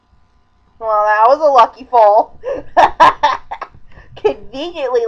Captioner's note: laughing